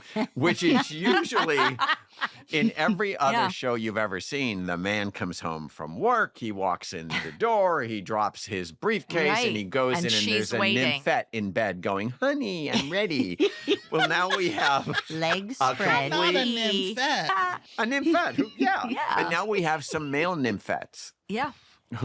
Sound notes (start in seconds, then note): 12.7 laughing